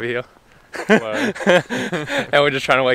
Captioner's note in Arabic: ضحكات خافتة